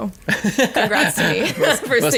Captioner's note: laughing